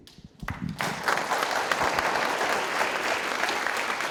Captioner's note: audience applauding